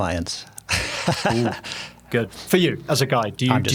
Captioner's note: laughing